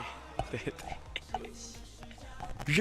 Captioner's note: cute giggle